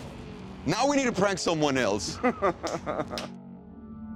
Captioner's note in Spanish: risas